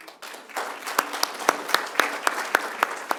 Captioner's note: applause